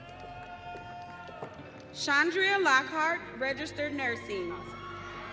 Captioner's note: audience cheering